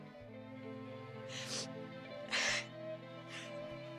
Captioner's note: sobbing